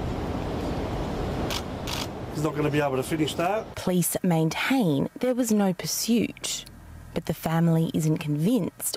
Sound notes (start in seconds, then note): 1.8 cameras clicking